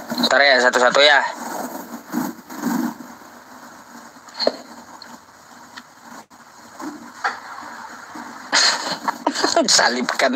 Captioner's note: laughs